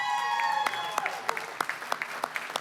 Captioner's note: applause, cheering; applause